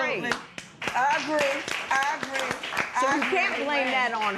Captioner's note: applause